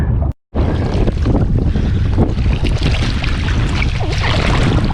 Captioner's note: water splashing